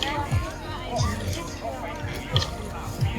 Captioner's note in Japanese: スペイン語